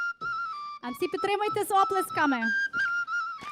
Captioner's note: gentle folk music; speaking foreign language; all clapping rhythmically